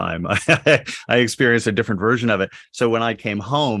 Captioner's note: laughs